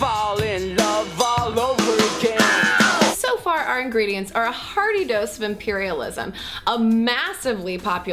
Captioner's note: scream